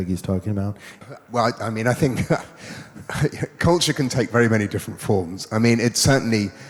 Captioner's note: laughs